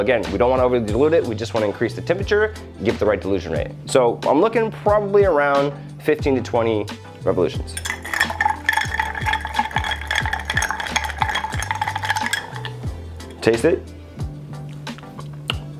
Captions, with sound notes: Again, we don't want to over dilute it, we just wanna increase the temperature, and give it the right delusion rate. So, I'm looking, probably, around 15 to 20 revolutions. (glass clanking) Taste it.